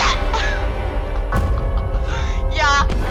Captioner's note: laughing